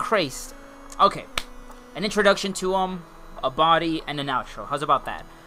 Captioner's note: clap